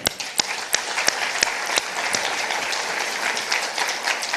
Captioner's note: all applauding